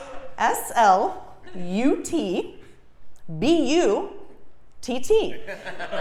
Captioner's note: laugh